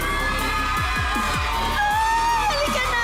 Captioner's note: audience cheering, applauding